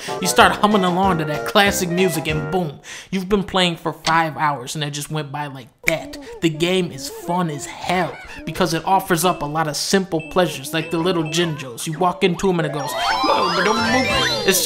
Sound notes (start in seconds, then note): 5.8 snaps fingers; 13.1 imitating jinjo fanfare